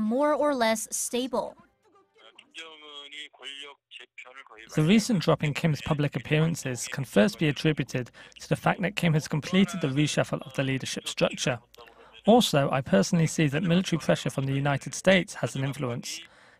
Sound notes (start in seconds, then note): 2.1 Korean